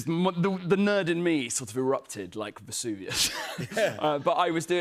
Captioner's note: both laugh